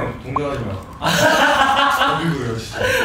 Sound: laughing

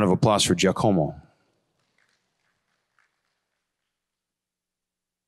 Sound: applause

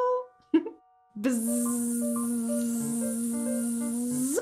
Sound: giggles; buzzing

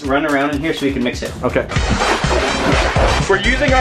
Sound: milk splashing

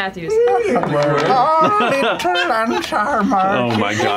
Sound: laughter

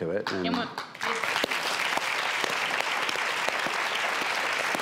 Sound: audience applauding

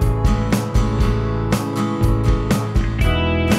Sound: none

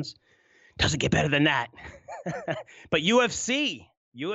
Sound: laughs

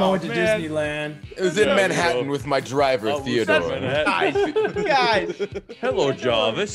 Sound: laugh

